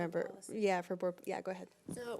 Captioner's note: mumbles